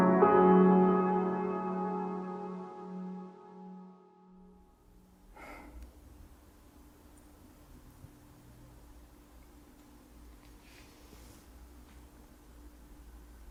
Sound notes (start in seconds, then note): 5.6 Leona chuckles